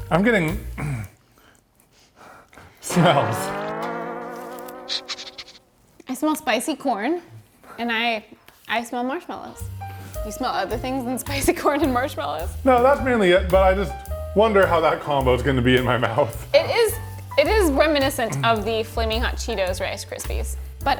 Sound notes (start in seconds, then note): 2.8 discordant music; 5.0 dog sniffing